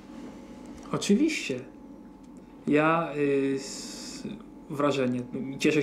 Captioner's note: speaking Polish